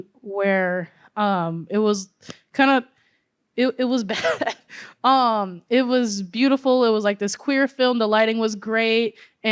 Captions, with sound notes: where, um, it was kind of, it, it was bad. (laughter) Um, it was beautiful. It was, like, this queer film. The lighting was great, and